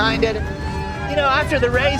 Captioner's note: crowd member cheers